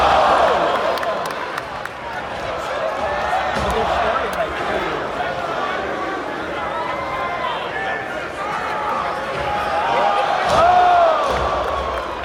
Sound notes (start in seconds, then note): 0.0 crowd groans; 4.9 crowd groans